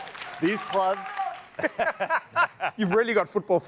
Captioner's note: applause; laughter